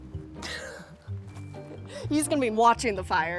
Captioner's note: laughs